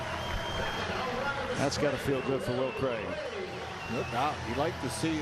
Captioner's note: c heering & applause; cheering & applause